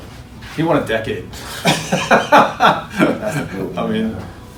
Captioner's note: laughs